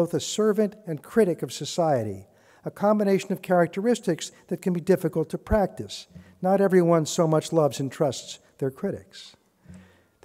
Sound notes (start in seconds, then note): none